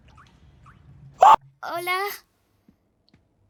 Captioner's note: shrieks